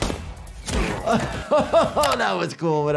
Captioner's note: gun banging; laughs